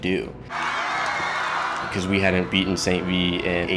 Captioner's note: cheering